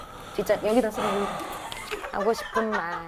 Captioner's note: deep sigh